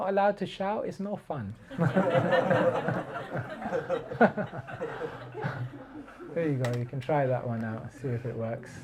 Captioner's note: laughter